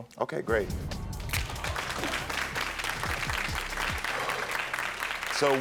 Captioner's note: audience applaud